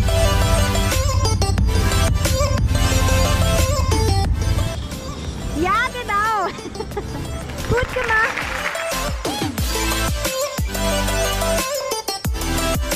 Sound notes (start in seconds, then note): 6.4 laughter